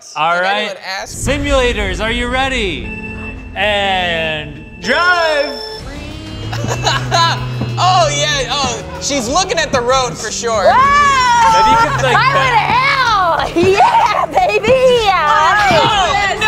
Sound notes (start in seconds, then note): 6.7 laughs